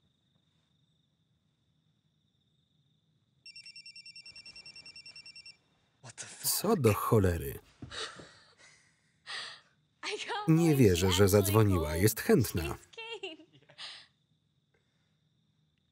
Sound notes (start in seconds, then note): 3.4 phone ringing; 7.8 laughter